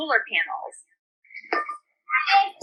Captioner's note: multiple children talking